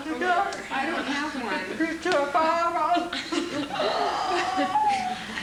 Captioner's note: room continues to laugh